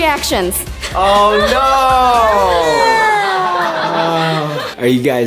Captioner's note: whimpering